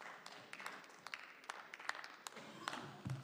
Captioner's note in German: Beifall